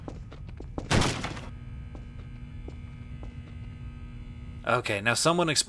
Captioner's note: chunky impact against crate